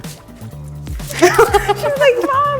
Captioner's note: laughing